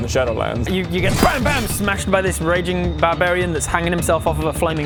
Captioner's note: bam bam